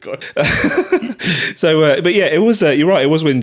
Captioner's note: both laughing